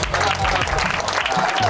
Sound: applause

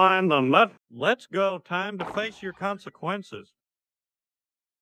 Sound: Hank Hill Voice

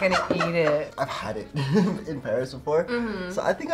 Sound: laughs

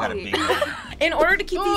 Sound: both laugh

